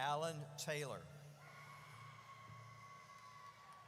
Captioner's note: audience cheers